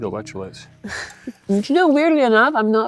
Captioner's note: laughs